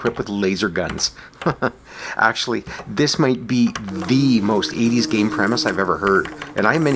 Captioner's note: chuckles